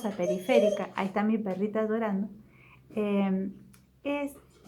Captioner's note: my puppy is whining